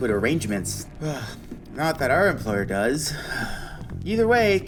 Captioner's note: sigh